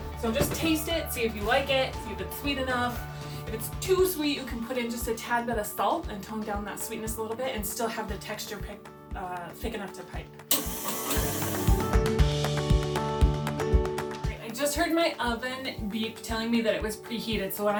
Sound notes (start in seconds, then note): 10.5 dough mixer whirring; 10.6 soft gentle music